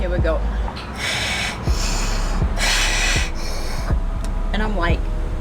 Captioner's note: inhaling exhaling